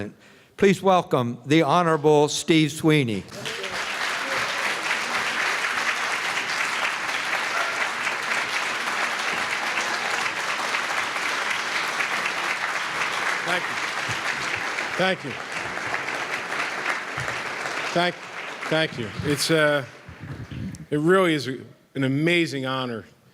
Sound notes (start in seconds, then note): 4.7 applause